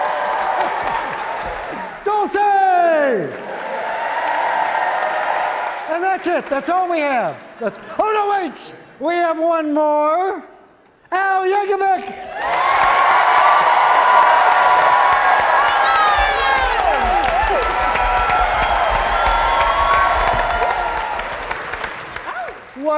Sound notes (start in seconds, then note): 0.0 audience cheering; 10.8 audience cheering, clapping; 16.5 audience clapping